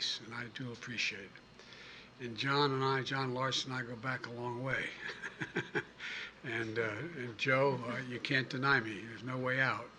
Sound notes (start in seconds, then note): 4.8 laughs